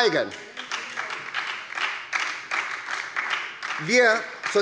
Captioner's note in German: Beifall bei der SPD